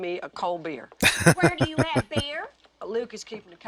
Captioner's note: laughing